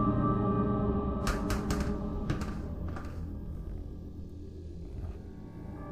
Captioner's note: light sphere clattering